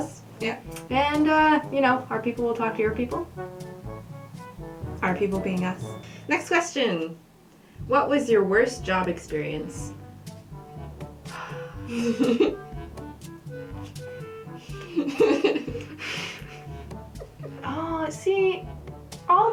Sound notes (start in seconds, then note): 11.3 sigh; 11.9 laughter; 14.7 laughter